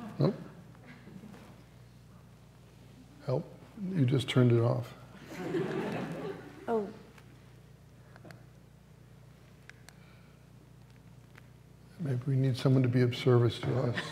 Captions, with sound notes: Well, you just turned it off. [LAUGHTER] Oh Maybe we need someone to be of service to us.